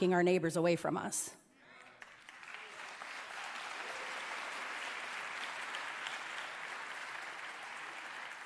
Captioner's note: cheers and applause